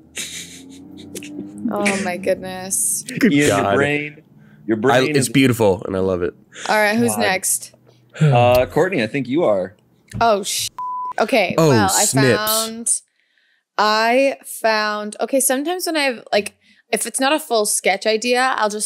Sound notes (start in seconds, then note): 10.7 beeps